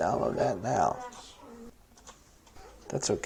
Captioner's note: near Silence